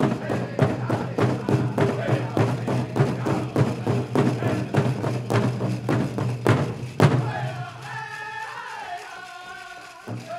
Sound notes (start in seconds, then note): 2.3 regalia ornaments rattling